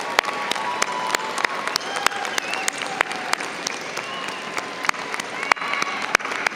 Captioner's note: audience applauding